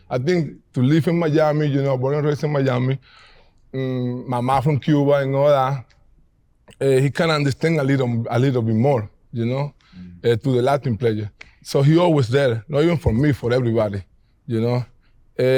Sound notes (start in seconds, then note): none